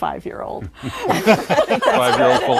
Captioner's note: laughter